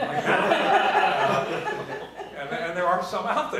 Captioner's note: laughter